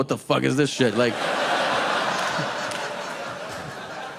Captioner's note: audience laughing